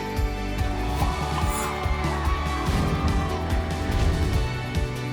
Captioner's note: people cheering